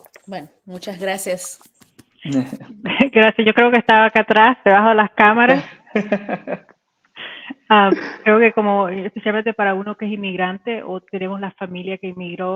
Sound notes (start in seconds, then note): 0.1 speaking in Spanish; 5.5 laughing; 7.9 speaking in Spanish